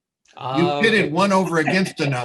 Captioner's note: laughs